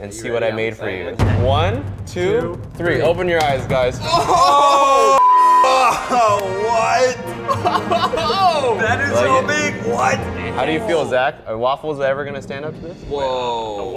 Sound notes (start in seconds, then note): 5.2 beep; 7.4 laughs